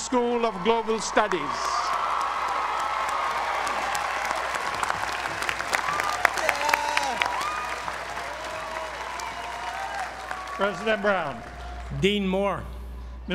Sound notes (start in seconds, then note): 0.9 applause